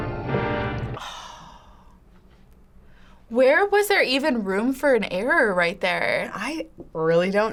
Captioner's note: sighs